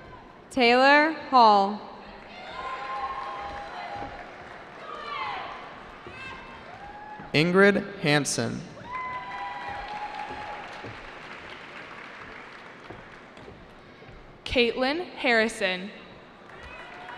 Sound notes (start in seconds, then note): 2.2 cheering; 8.8 cheering